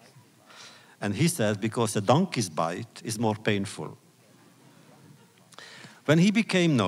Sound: laughter

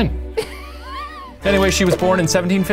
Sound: both laughing

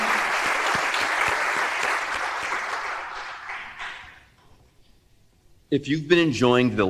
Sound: applause

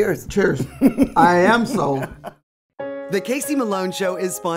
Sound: chuckles

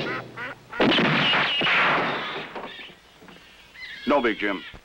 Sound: gunshot

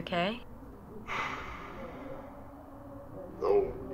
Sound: Liam sighs

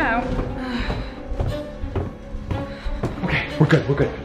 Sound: heavy footsteps; sighing

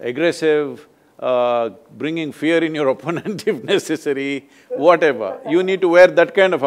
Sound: laughs

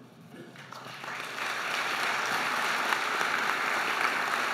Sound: audience applauding

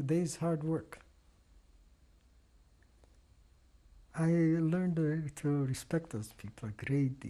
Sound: pauses for 3 seconds

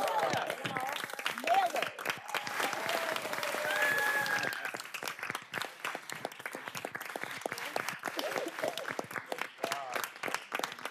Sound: applause; cheers and applause

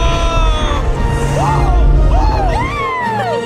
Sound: whooping

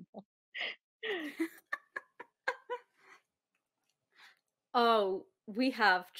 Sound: both laughing

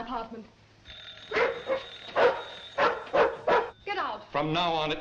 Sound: barking

